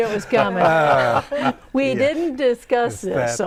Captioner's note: laughing